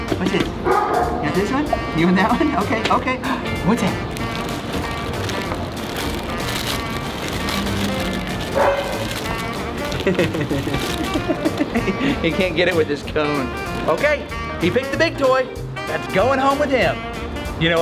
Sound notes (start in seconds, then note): 3.9 toy crinkling; 9.7 laughs